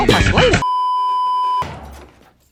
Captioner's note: beeeeeeeeeeeep